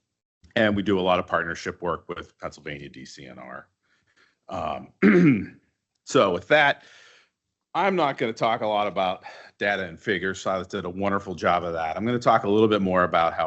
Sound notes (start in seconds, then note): 4.5 clearing throat